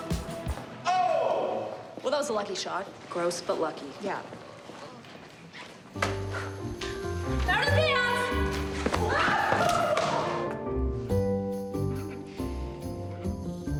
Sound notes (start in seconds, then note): 8.9 yells